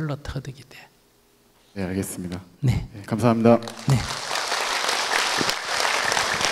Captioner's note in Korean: 청중 박수